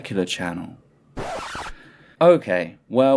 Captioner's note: record scratch